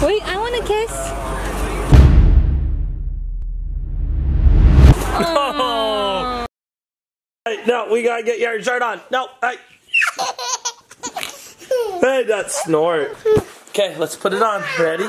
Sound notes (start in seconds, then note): 9.9 kid laughing